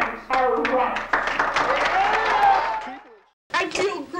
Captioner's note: applause